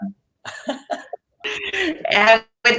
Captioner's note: laughing